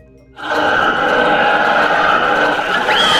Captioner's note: laughing so hard that it causes an earthquake